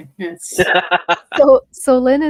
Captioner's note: laughs